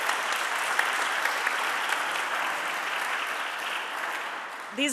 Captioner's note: audience applauding